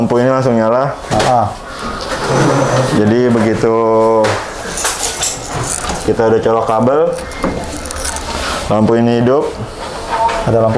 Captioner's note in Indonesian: suara mesin printer